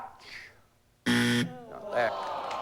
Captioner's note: buzzer